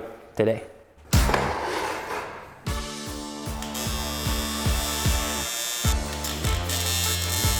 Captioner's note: sparks buzzing; upbeat music